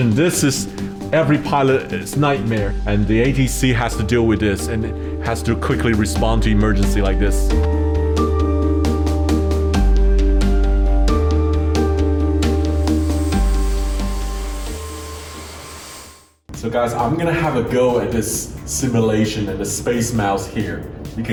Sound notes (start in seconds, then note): 7.6 upbeat music; 12.9 engine roaring